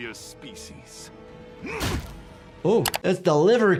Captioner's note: grunting